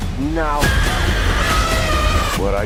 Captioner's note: woman screams